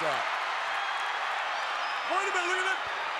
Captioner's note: crowd cheers